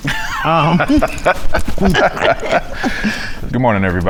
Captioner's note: laughs